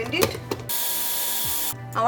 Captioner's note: blender whirring